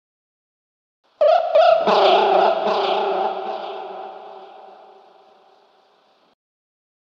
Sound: sound of birds and growl

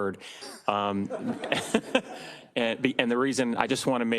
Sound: all laughing

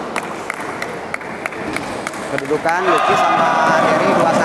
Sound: applause

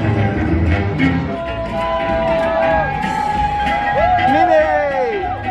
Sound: people cheering; upbeat music

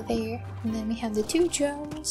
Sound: none

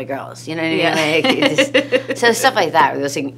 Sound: laughs

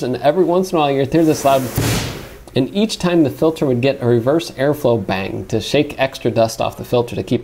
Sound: bang!

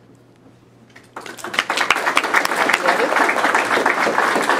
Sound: clapping

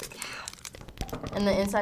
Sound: whispers

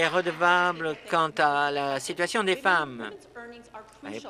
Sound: applause

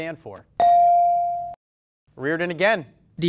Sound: ding

